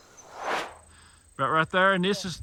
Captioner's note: air swooshes